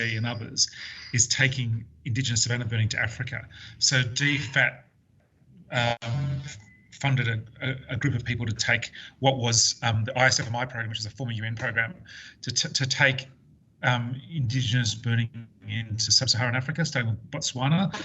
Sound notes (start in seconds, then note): 4.1 audio distorts